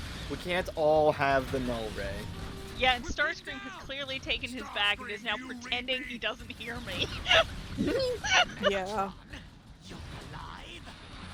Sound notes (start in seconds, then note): 6.9 Megatron: Starscream, do you read me?; 7.8 laughs